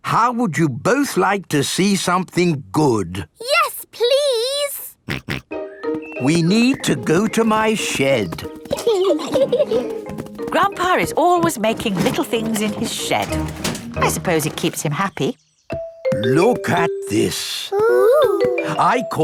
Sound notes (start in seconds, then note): 5.1 snorts; 8.6 giggling